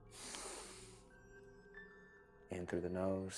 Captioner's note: Marcus inhales